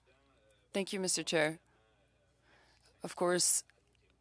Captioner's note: speaking French